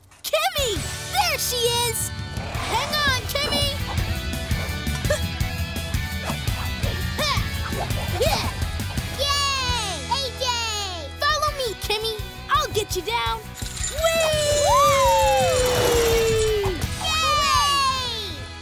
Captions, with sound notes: Kimmy! There she is. Hang on, Kimmy! Yay, AJ! Follow me, Kimmy, I'll get you down. [cheering]